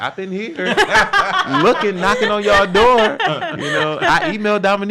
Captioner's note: laughs